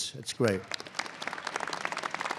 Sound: applause

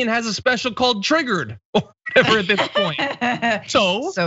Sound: laugh

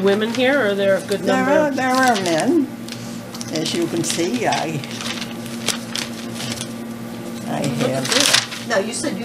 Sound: papers rustling

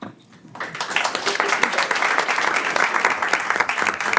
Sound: all applaud

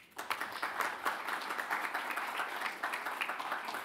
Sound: audience applauds

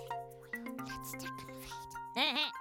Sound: whispers; bleating

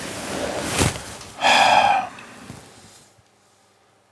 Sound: sighs

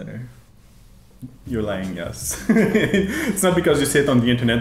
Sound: laughs

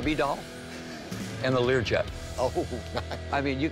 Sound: laughs

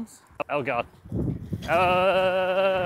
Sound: wind blowing; groaning

